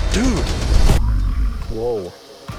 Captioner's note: low growling